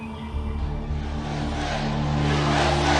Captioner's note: crowd